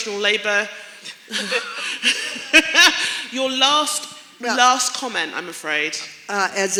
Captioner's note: laughter